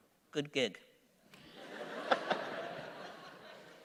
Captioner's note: laughter